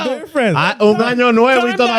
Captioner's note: speaking Spanish